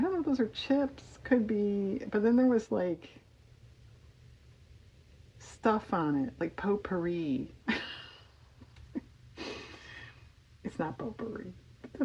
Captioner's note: laughs